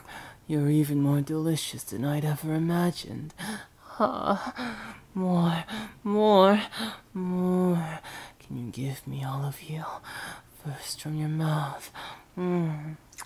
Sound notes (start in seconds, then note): 3.4 gasp